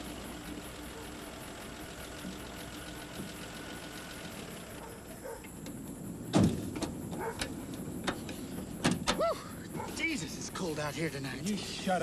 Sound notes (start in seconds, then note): 4.7 dogs barking; 6.3 car door thudding